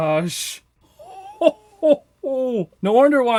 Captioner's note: laughs